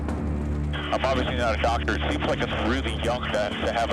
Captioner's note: man On Radio